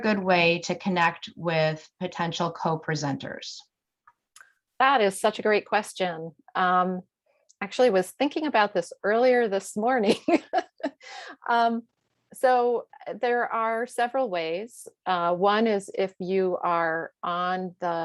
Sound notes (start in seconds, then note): 10.0 chuckles